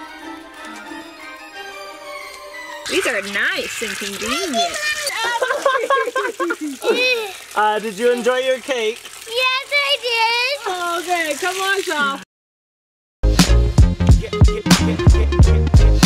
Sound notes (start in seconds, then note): 7.0 laughs; 13.2 upbeat music